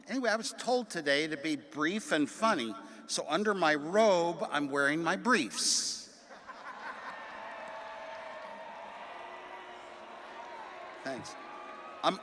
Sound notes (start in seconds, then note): 6.2 attendees laughing